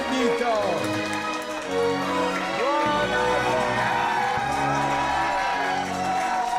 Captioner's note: restaurant cheering; intense music